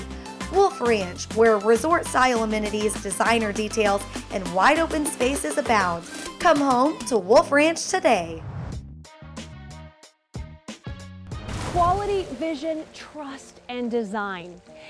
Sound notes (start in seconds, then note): 8.4 whoosh; 11.4 splash; 11.4 whoosh